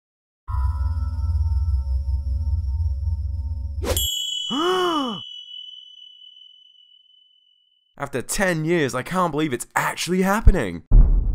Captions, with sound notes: *Gasps* After 10 years I can't believe it's actually happening!